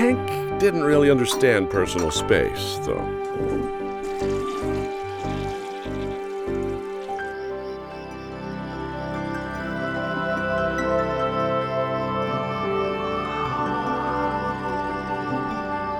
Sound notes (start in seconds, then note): 3.4 toilet flushing; 8.2 crickets chirping; 8.2 gentle music